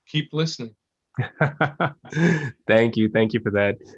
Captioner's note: laugh